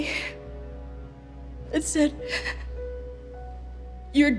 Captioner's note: sobs